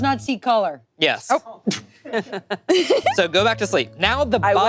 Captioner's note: group laughing